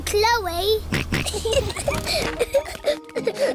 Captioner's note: snorts; kids giggling